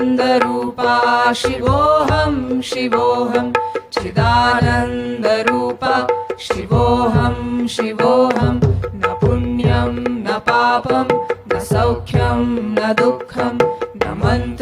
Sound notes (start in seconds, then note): none